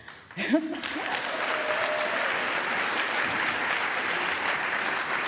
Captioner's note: applause